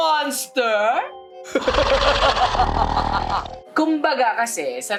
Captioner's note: sinister laugh